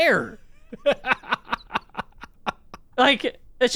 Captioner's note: laughs